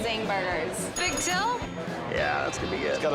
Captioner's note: bell chimes